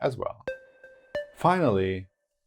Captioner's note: notes sound